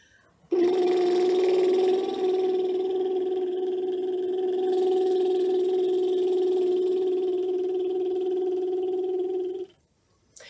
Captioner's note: lip trills